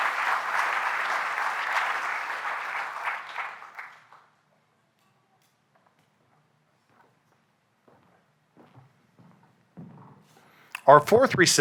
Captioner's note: applause